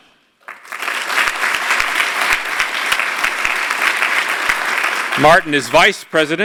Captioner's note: applause